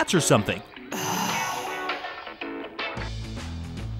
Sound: Anya sighs; upbeat rock music

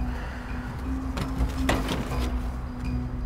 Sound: exhales; door opening

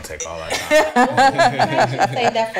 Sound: all laugh

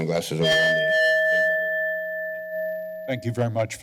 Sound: bell rings

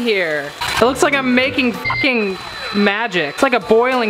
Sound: beep

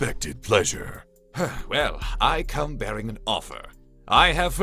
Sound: sigh

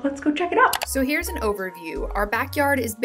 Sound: mouse clicks

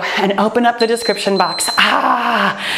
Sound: timer beeps

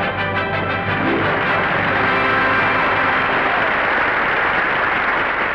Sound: applause

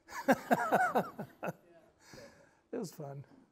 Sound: laughing

